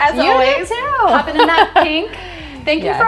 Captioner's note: laughs